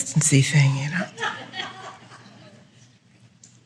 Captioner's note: laughter